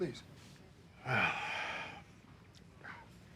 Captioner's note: sighs